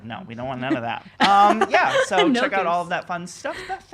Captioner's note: laughing